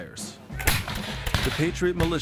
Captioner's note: gunfire